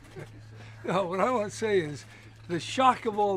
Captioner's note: laughs